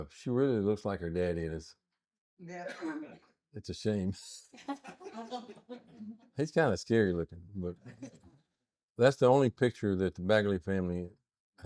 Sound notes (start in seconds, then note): 4.6 laughing